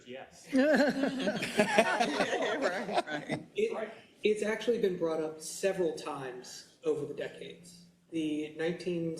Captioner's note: laugh